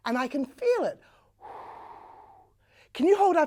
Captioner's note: air blowing sounds can be heard